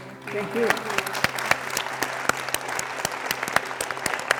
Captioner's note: audience clapping